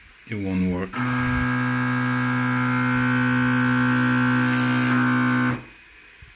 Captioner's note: loud Y axis carriage noise